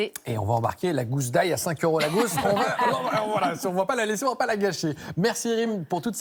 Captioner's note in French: rires